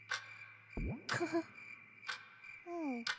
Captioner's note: giggle